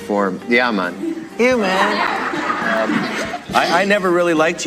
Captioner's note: laughter